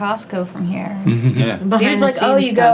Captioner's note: chuckles